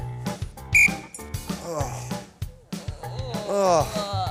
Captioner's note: whistle blows; they yawn